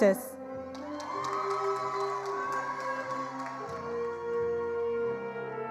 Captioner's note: attendees applauding